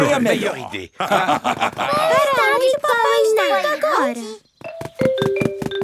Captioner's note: laugh